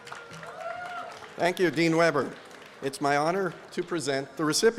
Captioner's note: applause